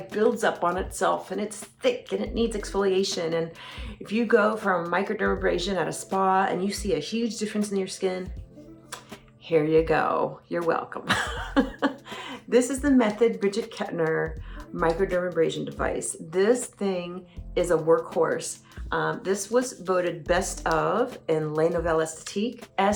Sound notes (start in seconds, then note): 11.9 laughs